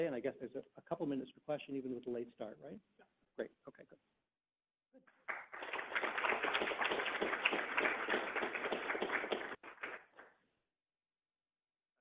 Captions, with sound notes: and I guess there's a couple of minutes for question even with the late start, right? - Yup. - Great. Okay, good. (classroom applauds)